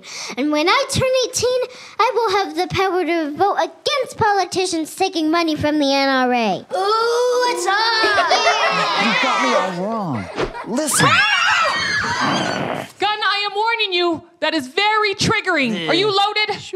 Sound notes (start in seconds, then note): 10.9 screams; 12.2 grumbles